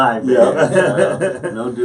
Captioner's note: laughing